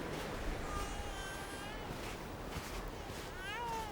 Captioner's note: baby cries